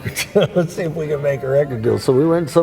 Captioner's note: chuckles